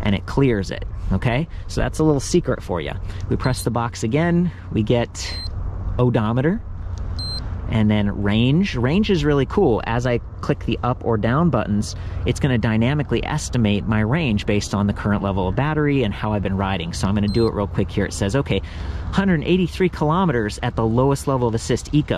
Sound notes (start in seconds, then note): 5.2 bike beeps; 7.1 bike beeps; 17.2 bike beeps